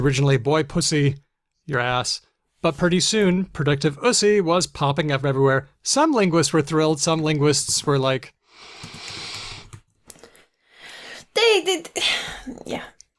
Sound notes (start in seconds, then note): 8.7 sighs